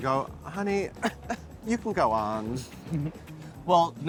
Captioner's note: coughs